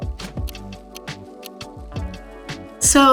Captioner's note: chill music; clock ticking